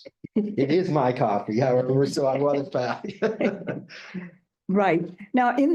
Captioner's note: chuckling